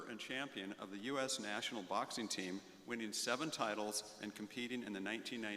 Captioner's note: none